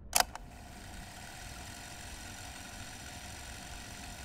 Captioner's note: film reel rolls